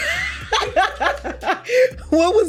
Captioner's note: laughs